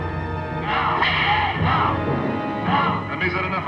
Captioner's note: whip cracks